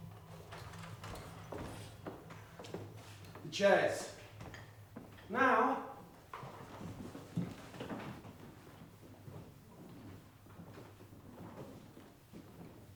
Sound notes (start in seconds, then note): none